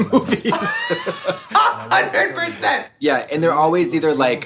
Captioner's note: laughing